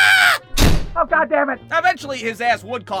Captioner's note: door shuts